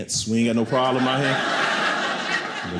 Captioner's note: audience laughing